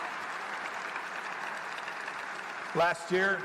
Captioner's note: applause